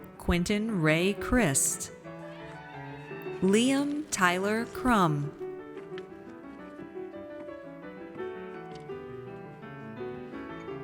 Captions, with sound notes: Quintin Ray Crist. (audience cheers) Liam Tyler Crumm.